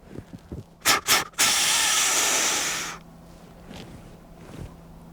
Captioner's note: snort wheezes at buck